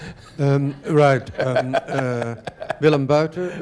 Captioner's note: laughter